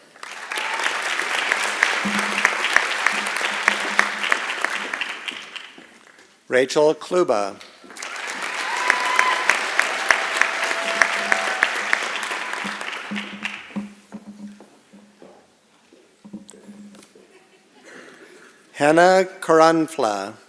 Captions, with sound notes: [ Applause ] Rachel Klubah. [ Applause and Cheering ] Hannah Keranflah.